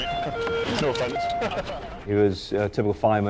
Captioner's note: laughs